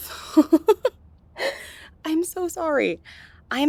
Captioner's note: laughs